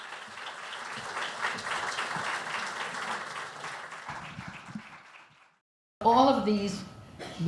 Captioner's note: applause